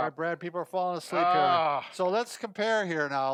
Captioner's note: groans